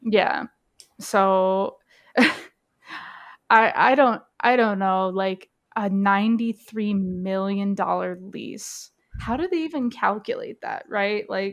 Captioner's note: laughs